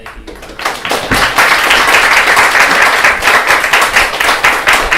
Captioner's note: applause